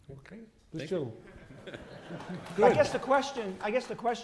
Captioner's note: laughter